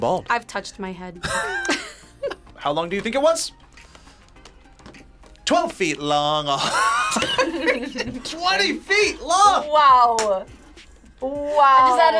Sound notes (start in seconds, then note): 1.2 both laugh; 6.6 laughs